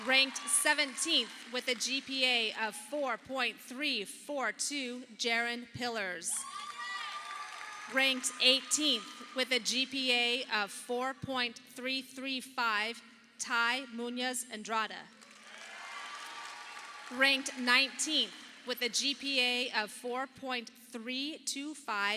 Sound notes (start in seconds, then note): 6.4 audience applauding; 15.2 audience applauding